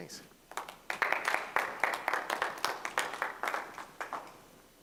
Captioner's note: applause